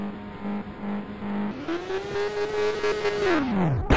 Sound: motorcycle crashes in slow motion

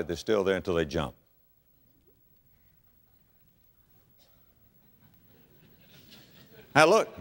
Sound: audience laughter

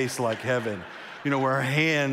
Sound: congregation laughs

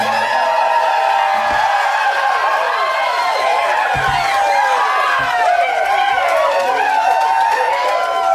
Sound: cheering - Applause

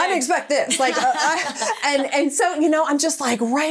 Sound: laughing

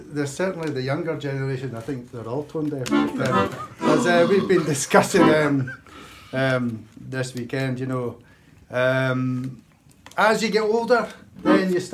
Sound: laughs

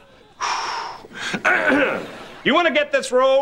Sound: clearing throat

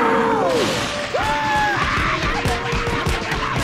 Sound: screaming

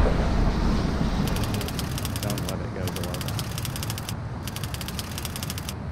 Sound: typewriter clicking

